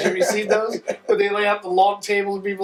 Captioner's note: laughing